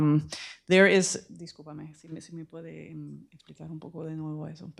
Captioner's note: speaking spanish